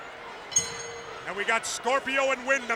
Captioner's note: bell rings